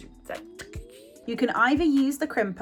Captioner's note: sizzling